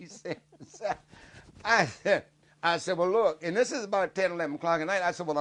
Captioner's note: laughing